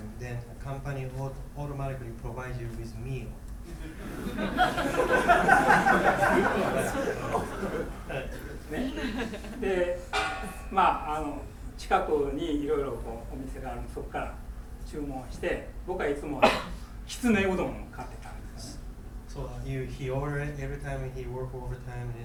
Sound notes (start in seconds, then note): 3.7 laughing; 10.1 clinking; 11.0 speaking in foreign language; 16.3 coughing